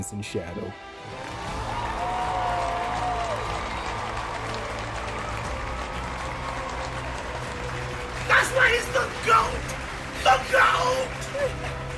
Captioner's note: applause